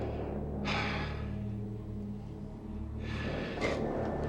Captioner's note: sighs